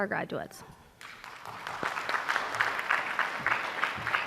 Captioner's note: applause